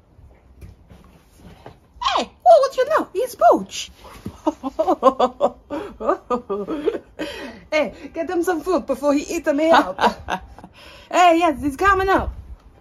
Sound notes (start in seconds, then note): 4.3 laughs